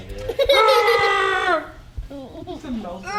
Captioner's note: baby giggling